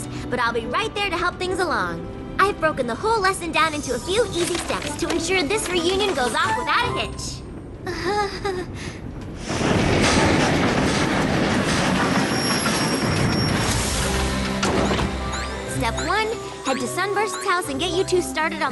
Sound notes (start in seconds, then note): 7.8 nervous giggle; 9.1 clattering train wheels; 11.4 squeaking brakes